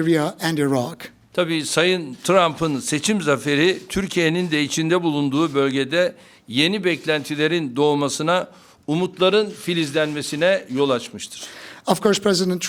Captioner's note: speaking Turkish